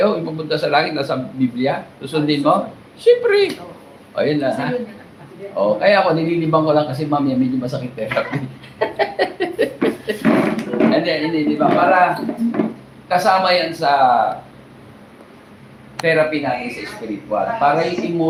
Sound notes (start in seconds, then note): 8.1 laughter